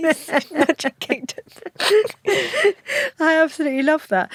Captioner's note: both laugh